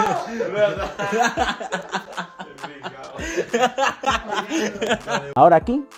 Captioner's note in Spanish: Risas